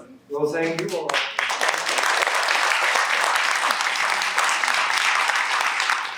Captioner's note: applause